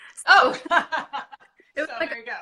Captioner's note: laughing